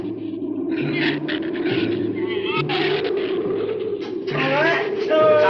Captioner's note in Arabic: عواء الريح; ثرثرة الزبابة